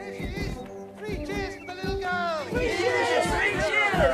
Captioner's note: thumping feet